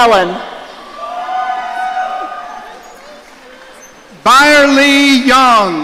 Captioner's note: audience cheering